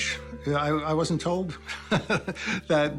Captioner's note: laughs